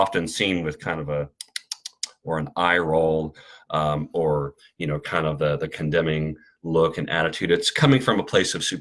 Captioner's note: tongue clicking